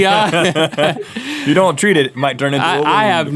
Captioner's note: both laugh